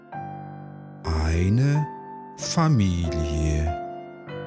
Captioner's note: german